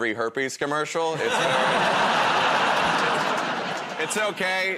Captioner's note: laughter